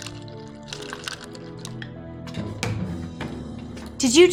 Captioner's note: milk pouring